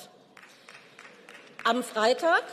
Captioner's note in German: Beifall